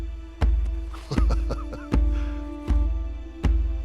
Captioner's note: laughing